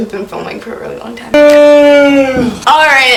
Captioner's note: yawns